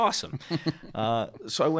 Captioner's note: chuckling